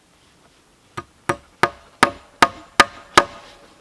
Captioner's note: hammering